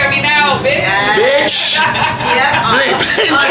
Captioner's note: laughter